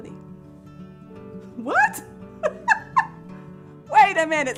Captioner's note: laughs